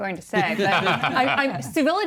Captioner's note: laughing